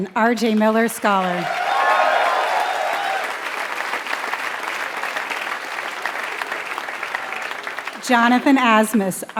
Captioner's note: applause